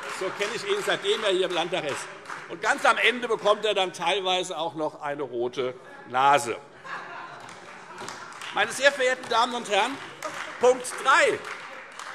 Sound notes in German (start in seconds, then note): 0.0 Beifall Freie Demokraten; 6.8 Heiterkeit und Beifall Freie Demokraten